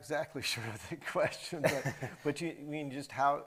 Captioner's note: chuckles